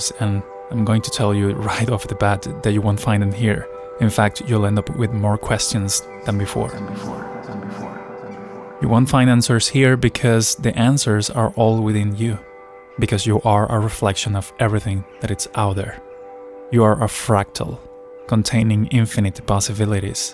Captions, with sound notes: And I'm going to tell you right off the bat that you won't find them here. In fact, you'll end up with more questions than before. [voice echoes] You won't find answers here because the answers are all within you, because you are a reflection of everything that is out there. You are a fractal containing infinite possibilities.